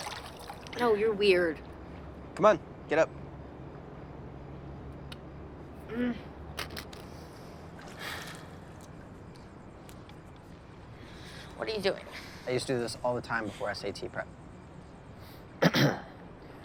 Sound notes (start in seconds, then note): 5.9 quiet grunt; 5.9 sigh; 15.6 clears throat